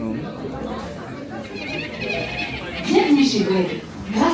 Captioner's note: guests chatter excitedly; Spider-Bots chittering; speaking in French